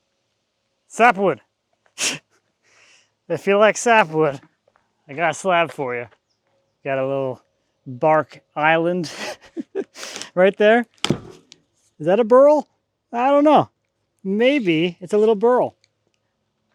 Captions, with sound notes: Sapwood! If you like sapwood, I got a slab for you. Got a little bark island (laughs) right there. Is that a burl? I don't know. Maybe it's a little burl.